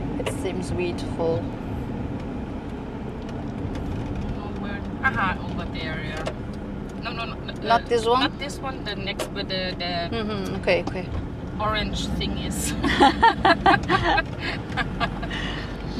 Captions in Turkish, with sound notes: It seems over there. No. Ok. Ok. Orang [kahkaha]